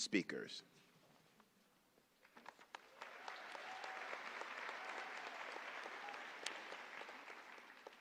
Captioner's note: applause